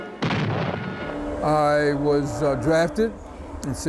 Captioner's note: intense explosion